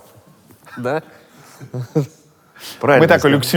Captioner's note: everyone, including the crew, laughs